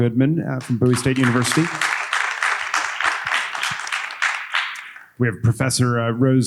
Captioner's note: audience applauding